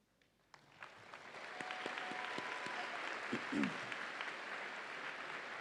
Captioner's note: audience applauds and cheers